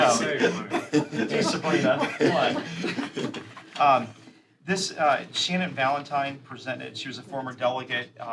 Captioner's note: laughter